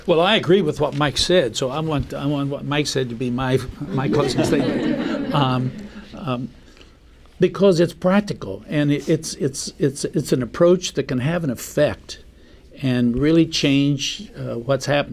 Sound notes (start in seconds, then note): 3.8 laughter